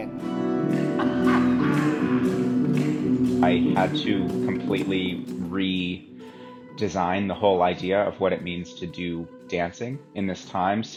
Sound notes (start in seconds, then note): 0.7 laughing; 1.0 upbeat music